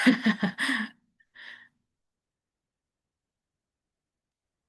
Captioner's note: laughs